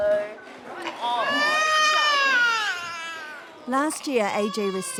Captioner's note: baby cries